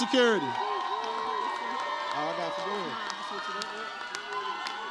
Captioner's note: audience cheers